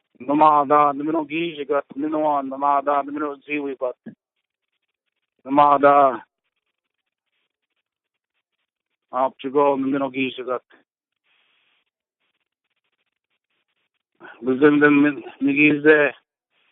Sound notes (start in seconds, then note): 2.8 native language spoken - 1:03:34 - 1:04:17